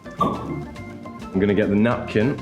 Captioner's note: cork pops